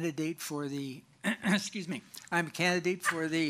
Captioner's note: clears throat